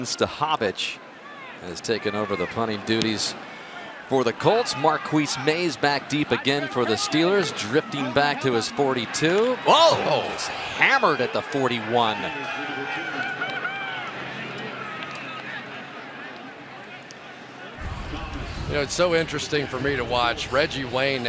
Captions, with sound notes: Brian Stahovich has taken over the punting duties for the Colts. Marquis Maze back deep, again, for the Steelers, drifting back to his 42. Whoa! Oh, he's hammered at the 41. [cheering] [pa announcement] You know, it's so interesting for me to watch.